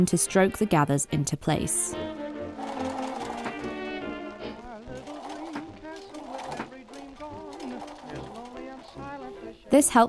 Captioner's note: machine starts and stops